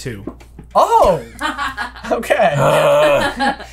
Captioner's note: laughter